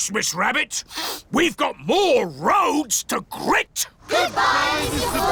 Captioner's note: sniffs